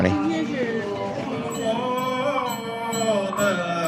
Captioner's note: chanting